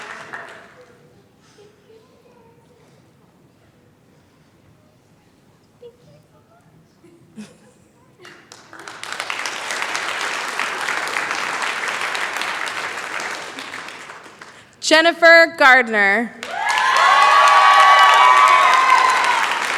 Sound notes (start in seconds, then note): 8.2 applause; 16.4 cheering